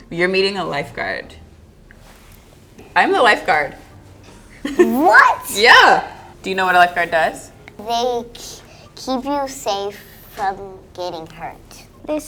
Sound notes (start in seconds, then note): 4.6 laughs